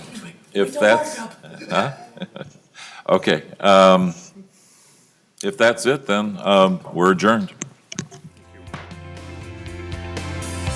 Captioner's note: laughing